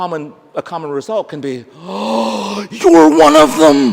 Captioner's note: gasp